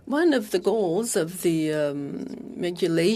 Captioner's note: speaking French